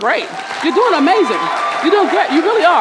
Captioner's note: hands clapping